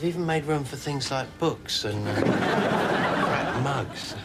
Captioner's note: audience laughs